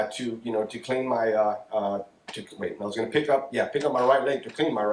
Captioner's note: none